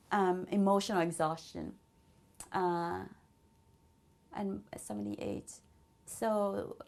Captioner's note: pauses for 3 seconds